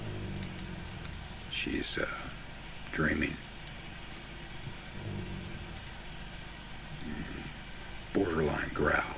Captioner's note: Tic growling; Tic growling